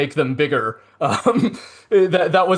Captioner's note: laughing